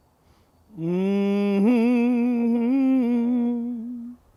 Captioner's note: pastor humming